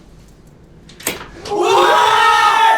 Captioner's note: door Unlocks